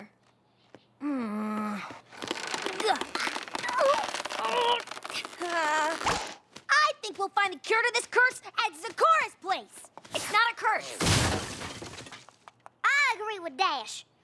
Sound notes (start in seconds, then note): 1.0 groans; 2.1 grunting; 11.0 crash!